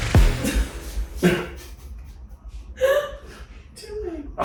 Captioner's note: laughing